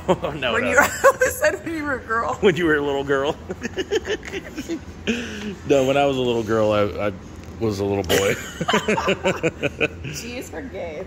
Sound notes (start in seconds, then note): 3.4 laughs